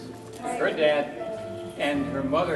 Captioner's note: none